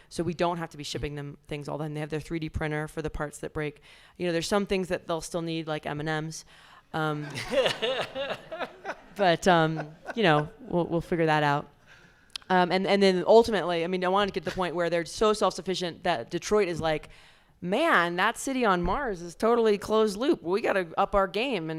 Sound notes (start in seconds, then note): 7.2 audience laughs